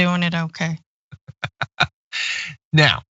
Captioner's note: laugh